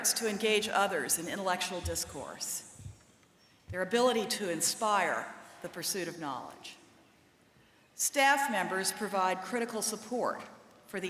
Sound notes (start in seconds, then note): none